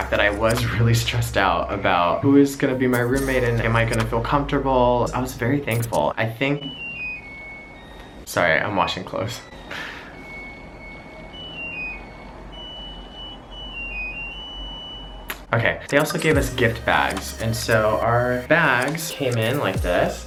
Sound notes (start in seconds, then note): 7.1 machine chimes; 10.3 fun happy music